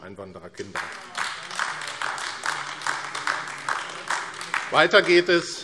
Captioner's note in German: Beifall AfD